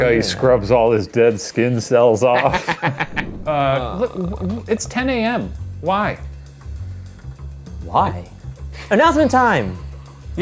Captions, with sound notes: - He scrubs all his dead skin cells off. (laugh loudly) It's 10 a.m. why? - What? - Why? - Announcement time!